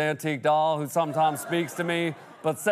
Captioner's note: laughter